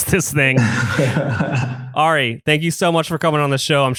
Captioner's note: laughs